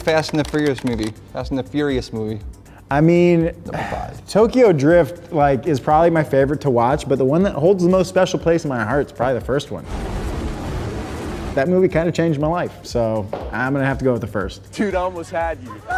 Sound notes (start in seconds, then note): 10.0 roaring